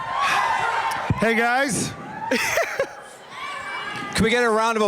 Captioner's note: laughs